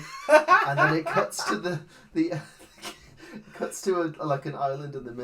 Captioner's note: laughs; snorts